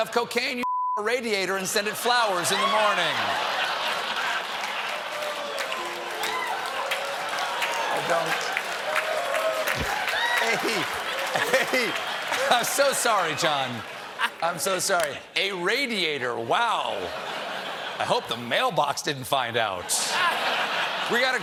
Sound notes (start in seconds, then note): 6.7 audience reacts; 6.7 laughter